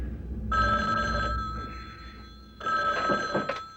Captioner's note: telephone rings